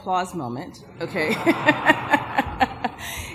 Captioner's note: laughter